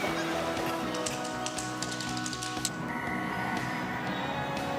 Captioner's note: clicking